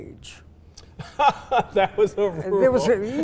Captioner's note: laughing